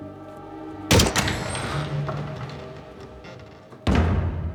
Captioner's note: door squeaks